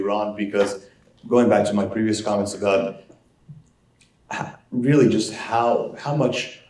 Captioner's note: cough